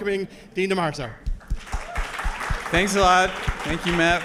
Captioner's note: applause